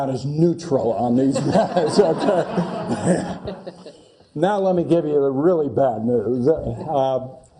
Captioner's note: laugh